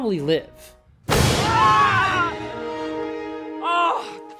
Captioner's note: dramatic music sting; Jonathan and Evelyn scream